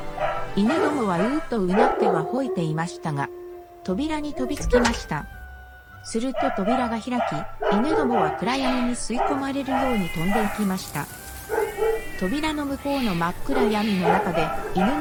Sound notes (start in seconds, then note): 11.3 dogs bark. Cats groan